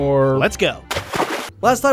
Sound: water splashes

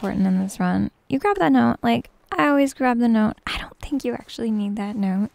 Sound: whispering

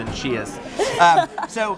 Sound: laughs

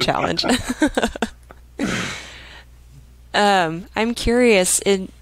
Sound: both laughing

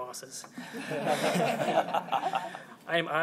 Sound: laughter

